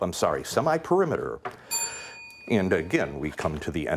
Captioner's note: bell ringing